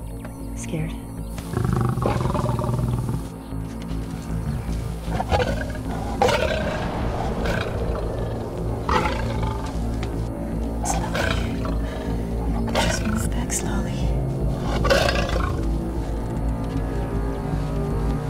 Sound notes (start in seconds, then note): 1.4 Growling; 13.3 Growling Continues